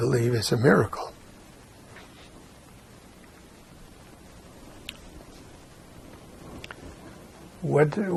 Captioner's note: pauses 6 seconds